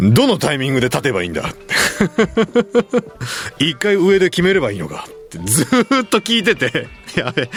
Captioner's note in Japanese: 笑い